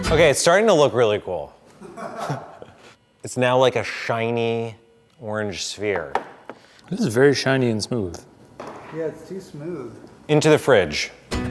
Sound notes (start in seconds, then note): 1.7 laughter